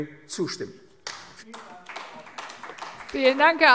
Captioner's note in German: Beifall AfD